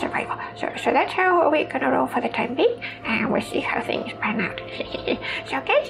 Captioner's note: chuckles